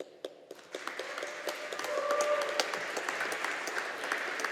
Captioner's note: audience applauding